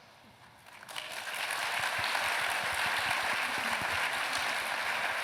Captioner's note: applause